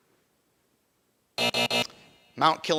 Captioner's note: buzzer buzzing